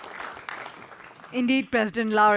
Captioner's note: audience applause